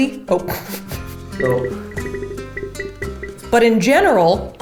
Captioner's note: syringe squeaks